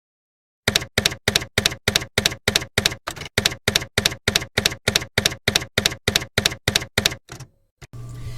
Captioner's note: typewriter keys clacking